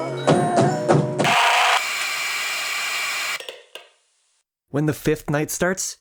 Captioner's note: jumpscare and static sound